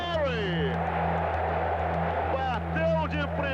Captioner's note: crowd cheering